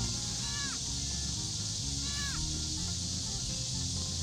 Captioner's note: fawn distress call